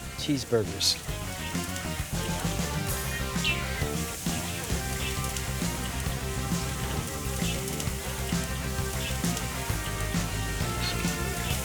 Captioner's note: sizzling